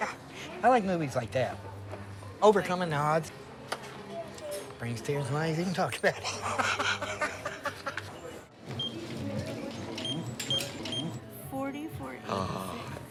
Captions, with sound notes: I like movies like that. Overcoming the odds, brings tears to my eyes even talking about it. [laughing] [register beeping] - 40.46.